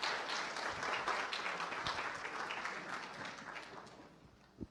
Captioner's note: applause